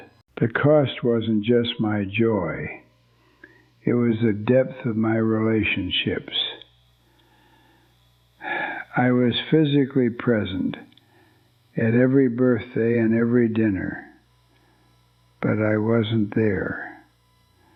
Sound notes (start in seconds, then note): 0.0 pause; 8.4 sighs